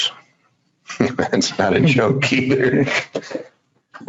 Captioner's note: laughs